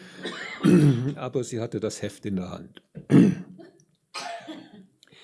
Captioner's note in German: räuspern; gelächter